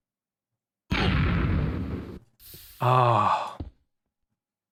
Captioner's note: explosion